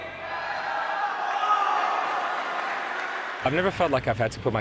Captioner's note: cheering and applause